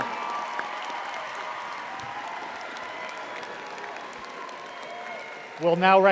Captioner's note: audience applauding